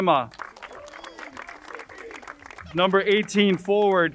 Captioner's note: crowd cheering and applauding